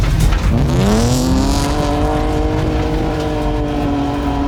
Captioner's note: car revving loudly